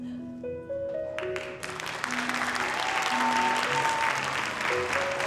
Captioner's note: audience applauding